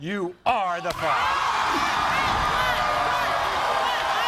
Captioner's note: audience cheers